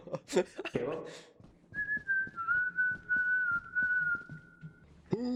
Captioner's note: whistling